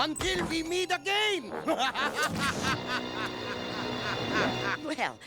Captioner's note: laughter